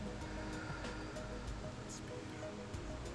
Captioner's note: exhales